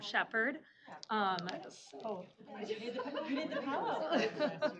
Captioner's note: overlapping chatter